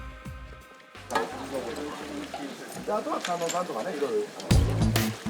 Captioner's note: mixed chatter